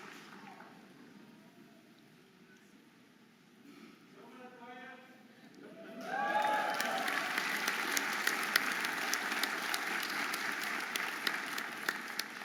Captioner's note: audience applauding and cheering